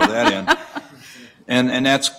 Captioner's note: laughter